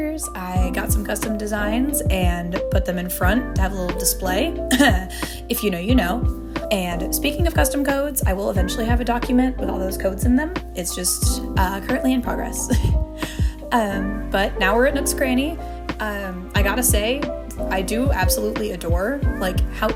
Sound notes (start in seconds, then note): 4.8 coughs